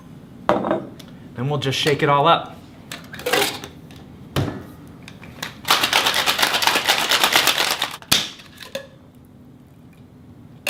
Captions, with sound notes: and we'll just shake it all up. (ice clanking)